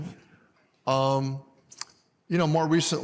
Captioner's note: none